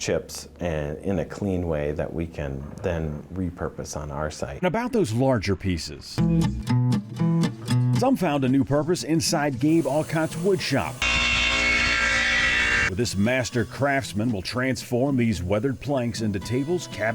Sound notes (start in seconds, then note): 5.9 bright music; 9.7 machine whirring